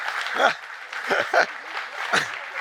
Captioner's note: chuckling